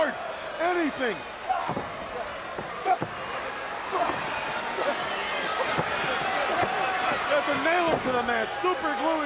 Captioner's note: crowd chatter